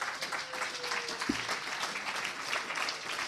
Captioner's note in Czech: potlesk